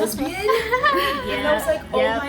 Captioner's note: women laughing